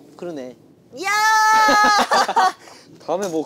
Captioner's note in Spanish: Jajaja